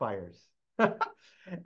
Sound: laughter

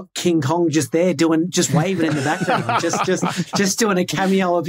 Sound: group laughing

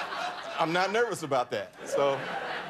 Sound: laughter

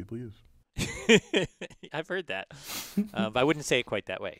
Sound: laugh

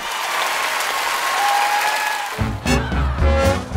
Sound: cheers and applause

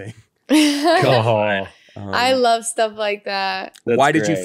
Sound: laughs

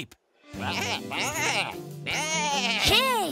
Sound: baaing

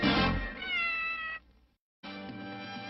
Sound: Mimsie mewing

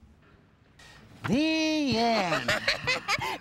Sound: chuckles

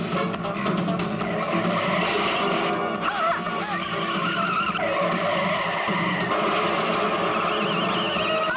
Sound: tires squealing and car hits

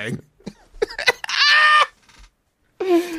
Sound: laugh

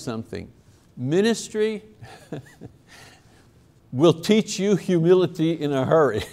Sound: laughs

